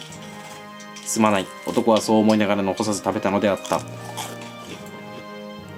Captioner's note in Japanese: 咀嚼音